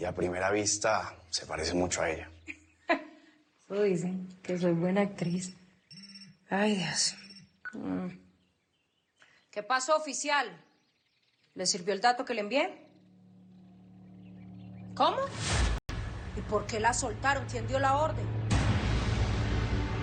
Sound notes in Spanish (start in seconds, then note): 5.8 Suena un celular